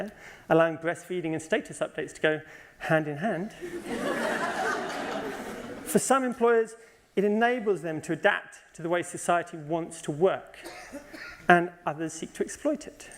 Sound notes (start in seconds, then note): 3.6 laughter